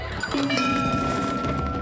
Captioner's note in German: Klingeln